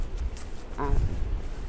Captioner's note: voiceover